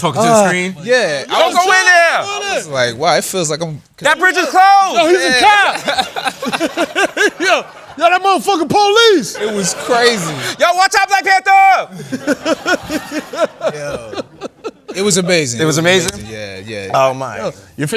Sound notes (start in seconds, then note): 5.5 laughter; 11.9 laughter